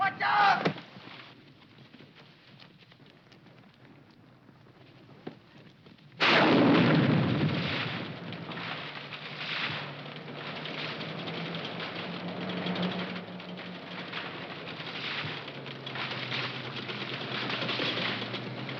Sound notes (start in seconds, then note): 6.3 tree exploding